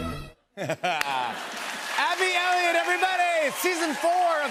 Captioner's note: laughter